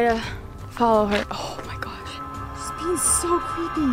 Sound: gasp

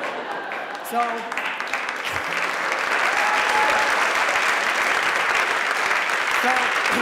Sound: applause

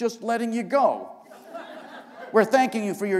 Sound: laughter

